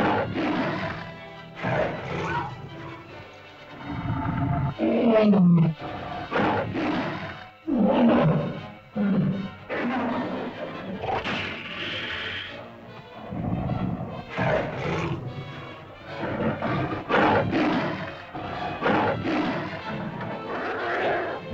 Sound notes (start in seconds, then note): 0.0 lizard bellows; 0.0 suspenseful music; 1.6 lizard bellows; 1.6 cavepeople yelp; 3.6 lizard moans & bellows; 3.6 suspenseful music; 10.7 lizard snarls & growls; 10.7 suspenseful music